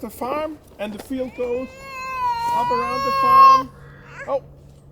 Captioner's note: baby crying